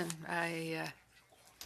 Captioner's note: speaking French